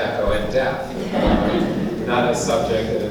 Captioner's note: laughing